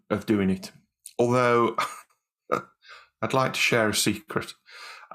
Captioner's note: chuckles